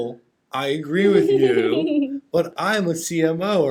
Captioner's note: laughing